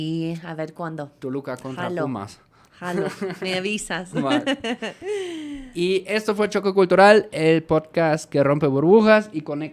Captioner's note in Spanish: risas